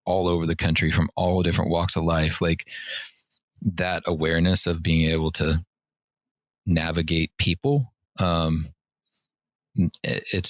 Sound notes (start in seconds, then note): none